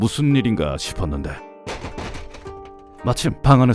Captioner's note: slam!